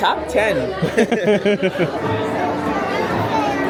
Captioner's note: both laugh; children laugh; people chatter